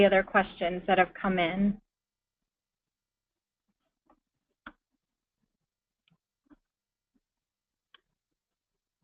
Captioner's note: pause